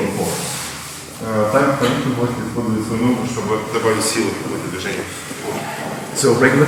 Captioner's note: speaking in a foreign language